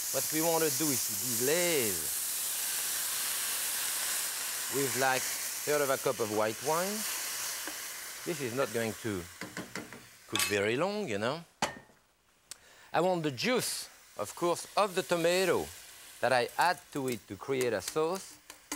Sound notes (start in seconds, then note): 3.3 pan sizzling